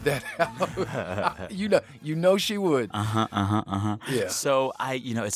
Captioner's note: laughter